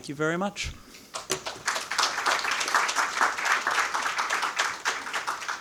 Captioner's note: audience applauding